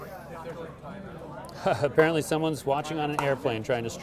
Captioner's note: laughing